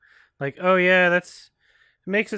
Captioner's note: none